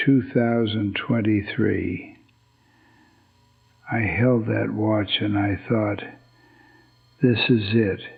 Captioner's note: whispers